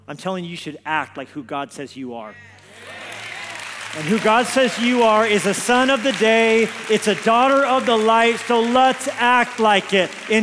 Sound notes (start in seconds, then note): 2.6 congregation exclaims; 2.7 congregation applauds